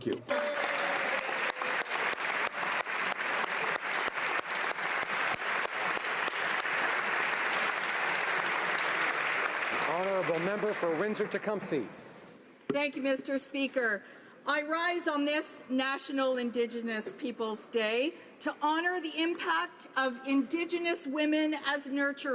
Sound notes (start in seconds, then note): 4.5 applause